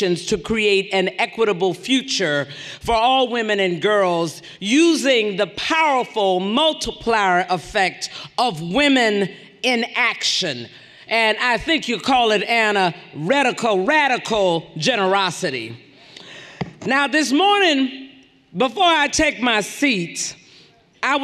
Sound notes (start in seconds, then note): none